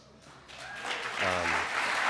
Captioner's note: clapping